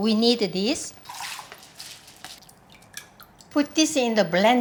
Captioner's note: water dripping; rice tapping